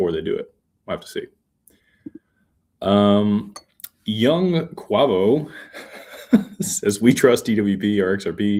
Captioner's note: laughter